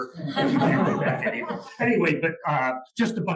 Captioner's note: laugh